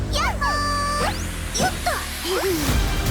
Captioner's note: giggles